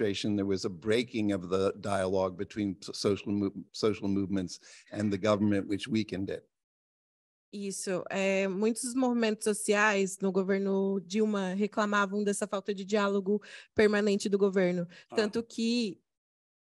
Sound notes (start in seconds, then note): 12.2 speaking Portuguese